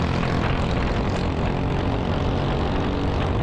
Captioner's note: engine revving